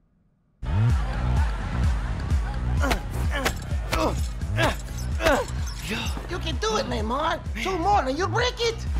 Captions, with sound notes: [Party music] [Grunting] - You can do it, Neymar. Two more and you'll break it!